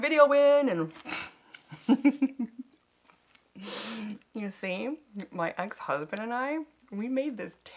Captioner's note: laughs